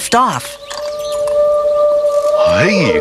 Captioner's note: distant siren